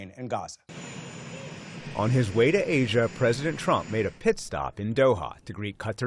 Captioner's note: voice-over